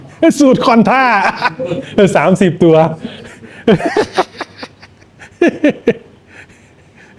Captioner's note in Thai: เสียงหัวเราะ; เสียงหัวเราะ